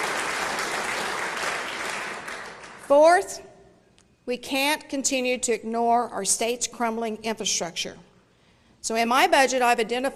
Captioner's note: applause